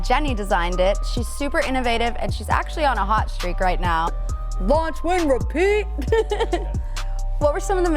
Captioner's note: chuckles